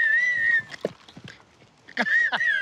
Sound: continues laughing

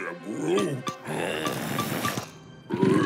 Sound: chuckles; growling

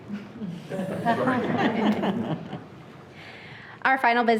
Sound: everyone laughing

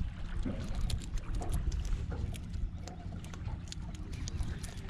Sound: tackle rattling; water lapping

